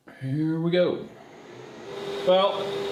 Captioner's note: printer whirring